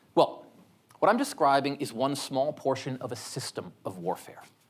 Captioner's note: none